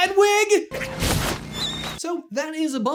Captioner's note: distressing owl scream